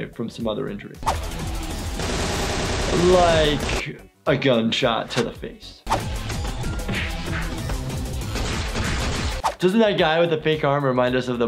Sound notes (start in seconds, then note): 1.0 active music; 1.9 gun shooting; 5.8 body thumps smashing; 5.9 active music